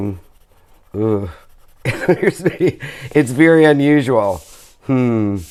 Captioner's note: laughs